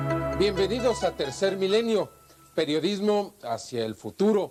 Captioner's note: in vreemde taal